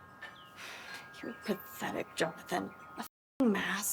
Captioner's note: sighs